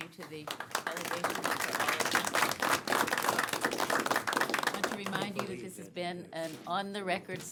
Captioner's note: applause